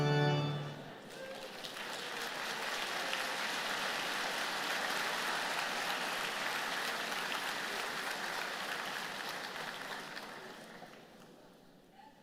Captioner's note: applause